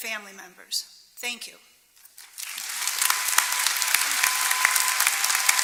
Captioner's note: applause